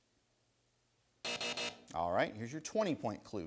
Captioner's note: bell rings